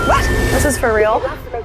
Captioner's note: dial tone